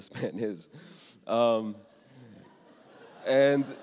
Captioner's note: laughter